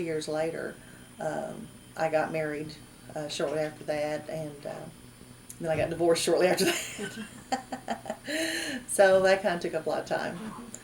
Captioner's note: laughs